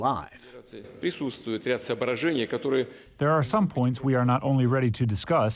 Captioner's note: through translator